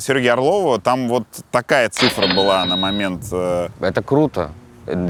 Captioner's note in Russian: Звук кассового автомата